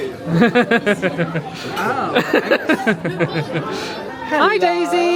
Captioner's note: laughing